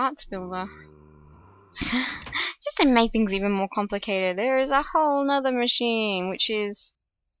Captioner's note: laughs